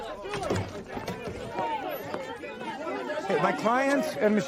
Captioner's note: reporters clamoring